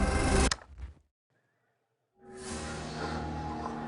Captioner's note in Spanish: Clic